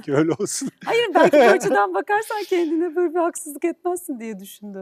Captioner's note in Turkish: kahkaha